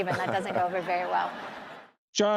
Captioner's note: laughter